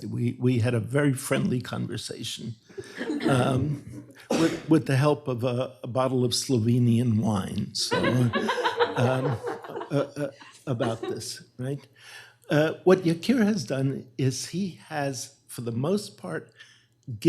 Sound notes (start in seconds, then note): 7.9 laughter